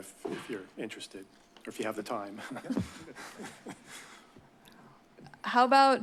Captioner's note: chuckles